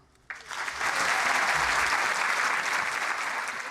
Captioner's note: applause